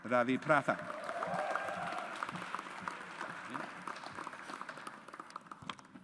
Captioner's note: audience applauds